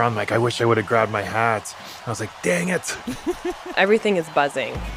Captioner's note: laughs